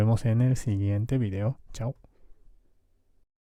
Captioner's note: Spanish